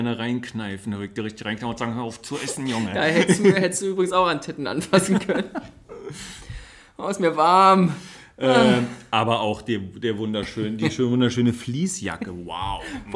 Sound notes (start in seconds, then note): 5.0 laughs; 8.4 moans